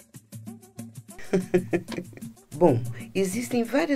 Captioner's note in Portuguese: Mãe ri